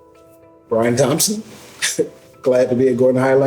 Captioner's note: laughs